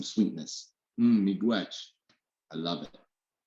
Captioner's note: speaking in a indigenous language